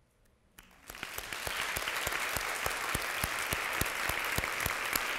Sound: audience applauding

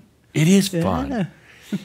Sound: she giggles

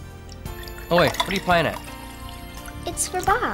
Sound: water pours into glass

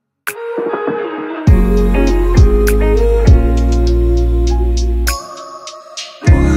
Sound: ooh-ooh-ooh-ooh-ooh

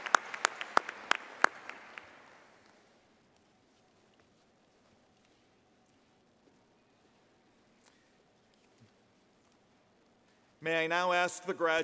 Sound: applause

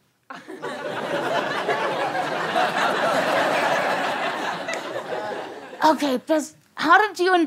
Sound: audience laughter

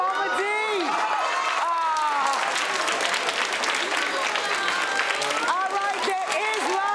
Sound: audience continue to cheer and applaud

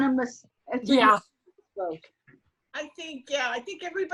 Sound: speaks faintly

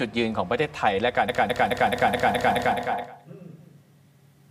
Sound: echo

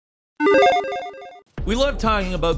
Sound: logo beeps

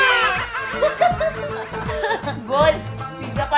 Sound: laughing

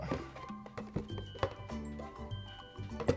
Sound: sounds of struggle and splashing

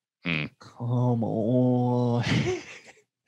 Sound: laughs

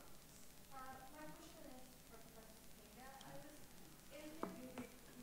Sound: speaks off microphone

